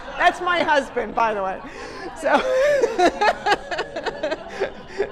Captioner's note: laughter